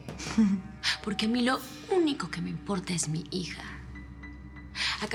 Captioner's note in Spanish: Risa de Fernanda